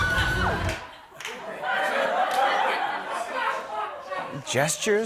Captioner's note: laughter